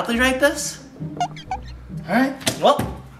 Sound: camera squeaking

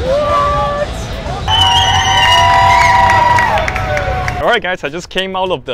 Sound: crowd cheering

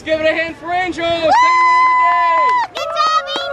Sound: cheering

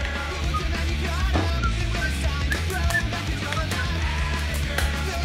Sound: whistling

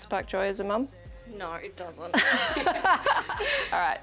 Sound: laughter

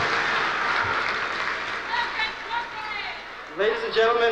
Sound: shouting

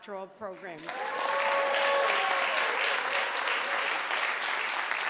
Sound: audience applauding

